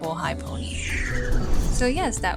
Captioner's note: whoosh transition